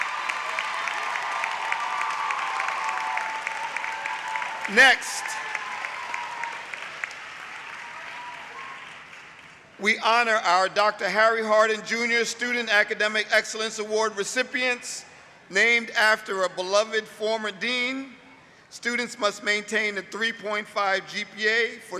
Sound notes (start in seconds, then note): 4.3 applause; 8.0 cheering